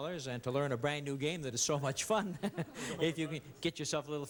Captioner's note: chuckles